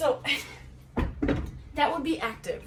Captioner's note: bar drops